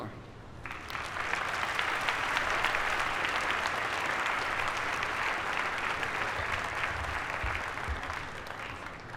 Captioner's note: applause